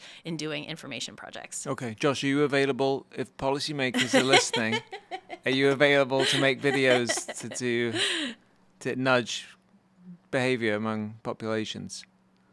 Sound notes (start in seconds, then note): 3.9 laughing